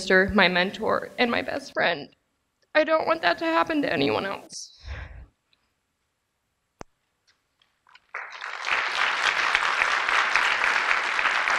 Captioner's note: applause